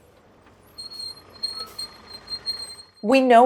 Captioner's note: brakes screeching